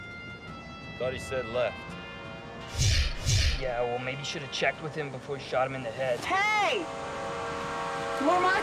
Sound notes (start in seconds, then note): 2.7 whooshing of air